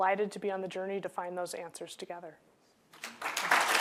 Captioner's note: applause